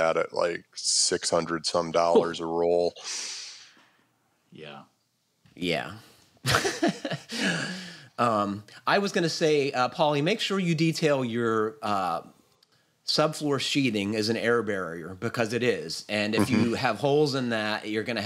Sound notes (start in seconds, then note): 6.7 laughs